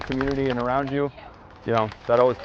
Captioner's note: spectators applauding